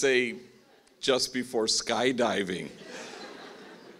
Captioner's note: laughing